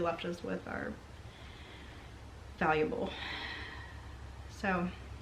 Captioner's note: sighs